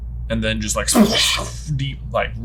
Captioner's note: imitates splash